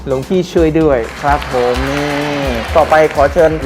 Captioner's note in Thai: เสียงปรบมือ